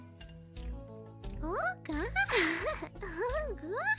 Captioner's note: babbles, Laughs